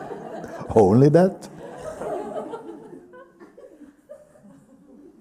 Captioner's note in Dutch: gelach